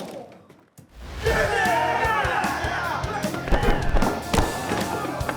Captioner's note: crowd cheering